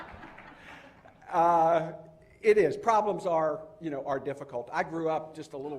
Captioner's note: laughter